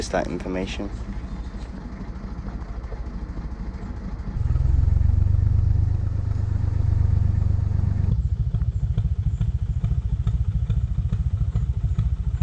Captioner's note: narrowboat engine sounds